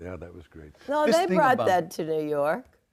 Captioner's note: all laughing